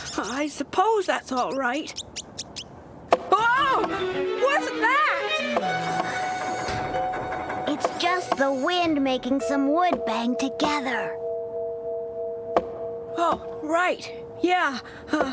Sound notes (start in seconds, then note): 2.8 thunk!; 12.5 thunk! Thunk!